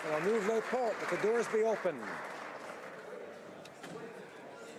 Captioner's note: applause